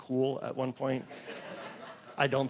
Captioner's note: laughter